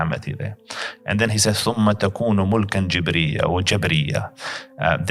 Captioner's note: Arabic